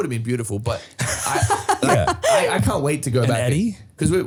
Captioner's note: laughing